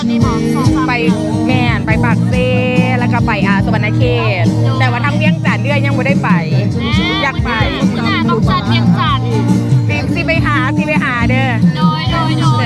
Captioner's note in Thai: เสียงหัวเราะ